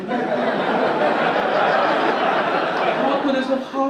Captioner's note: audience laugh